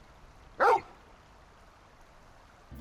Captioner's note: bark